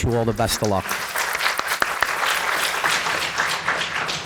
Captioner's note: applause